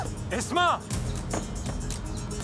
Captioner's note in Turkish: Düşme sesi